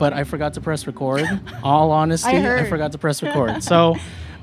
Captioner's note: laughs